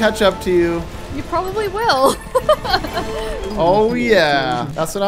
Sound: laughs

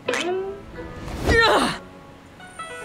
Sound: grunting

